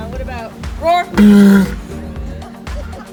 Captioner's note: walrus makes roaring vocalisation